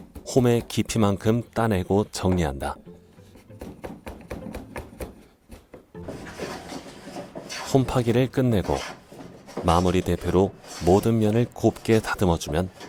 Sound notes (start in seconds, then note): 3.6 chiseling sound; 5.9 planing sound